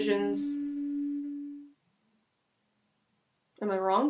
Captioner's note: long pause